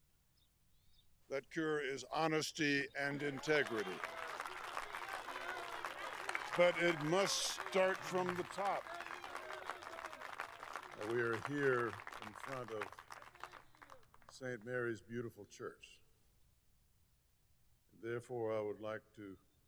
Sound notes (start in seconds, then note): 2.9 audience Agrees; 12.6 cheers & Applause